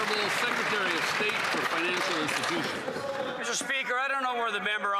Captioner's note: applause